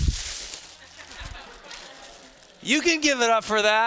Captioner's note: students laughing